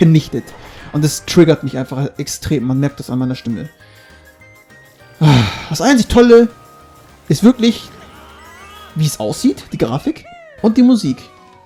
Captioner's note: sigh